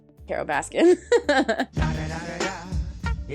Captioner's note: laughs